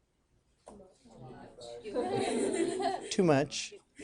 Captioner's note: students laughing